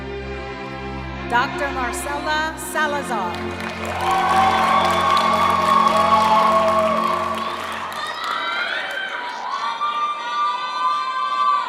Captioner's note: cheering and music